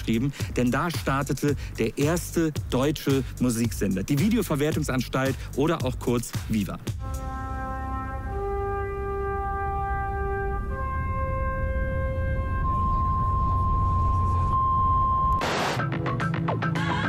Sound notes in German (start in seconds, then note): 8.5 Piepsen; 8.5 dramatische Musik